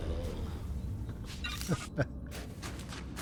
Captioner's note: laughs